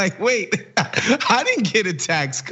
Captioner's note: laugh